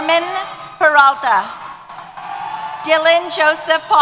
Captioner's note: cheers